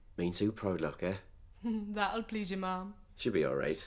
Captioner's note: sarcasticly